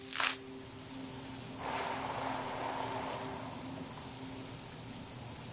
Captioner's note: water sprinkling